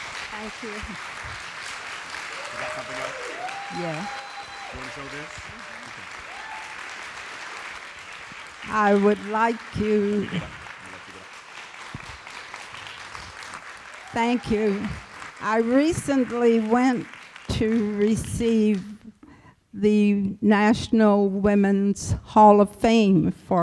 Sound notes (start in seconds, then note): 0.1 applause and Cheering; 11.3 applause continues